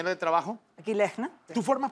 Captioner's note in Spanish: Habla al revés